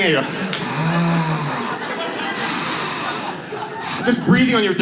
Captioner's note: audience laughs